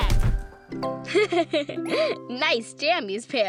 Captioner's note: gabby laughs